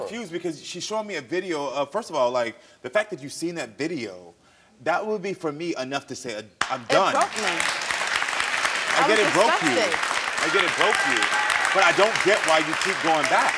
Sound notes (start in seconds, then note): 6.6 audience applauding